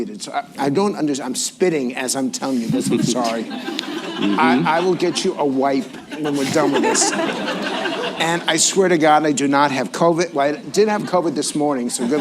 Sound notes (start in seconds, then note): 6.0 laughter; 11.9 laughter